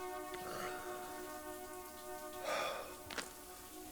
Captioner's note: man sighs